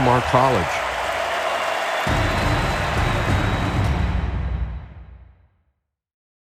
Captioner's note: audience cheering; dramatic rhythmic music